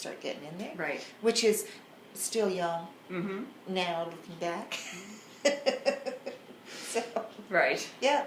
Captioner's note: laughs